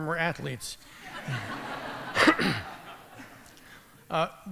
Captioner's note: laughter